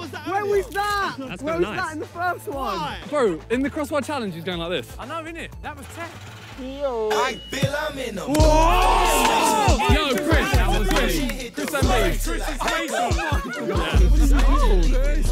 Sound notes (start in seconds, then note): 6.4 upbeat hip hop music; 8.7 players shout